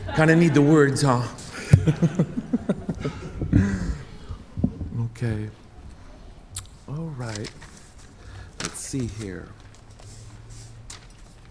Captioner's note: speaking native language